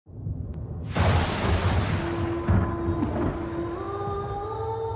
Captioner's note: thunder rumbling